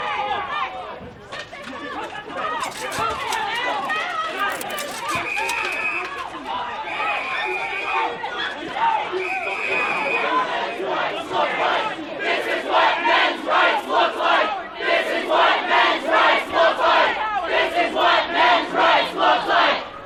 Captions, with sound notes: [ALL SHOUTING] [WHISTLE BLOWING] [CROWD] THIS 1S WHAT MEN'S RIGHTS LOOK LIKE'.! THIS IS WHAT MEN'S RIGHTS LOOK LIKE! THIS IS WHAT MEN'S RIGHTS LOOK LIKE! THIS IS WHAT MEN'S RIGHTS LOOK LIKE!